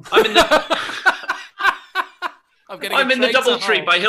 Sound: laughter

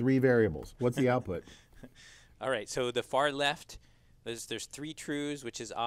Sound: laugh

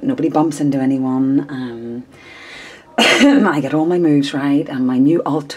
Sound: coughs

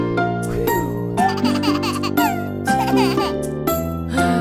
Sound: baby laughing

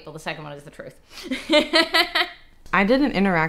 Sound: laughs

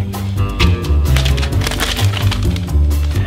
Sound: poster shuffles; dramatic music continues

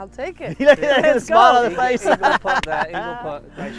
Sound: laughs loudly

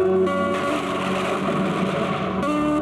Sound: thunder crashing

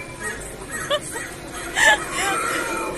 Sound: laughing all the tim

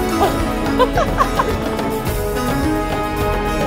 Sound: laugh; background music

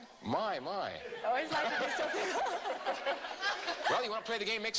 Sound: laughter

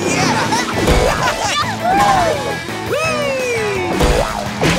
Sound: cheering

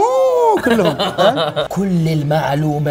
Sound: laughing

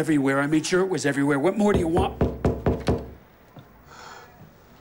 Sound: knocking on door

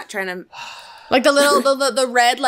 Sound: sighing

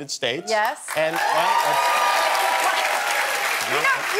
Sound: applause and cheering

